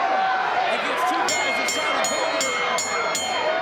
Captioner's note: bell rings